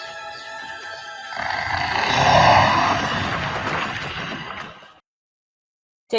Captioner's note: roar